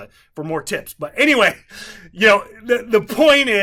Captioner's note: laughs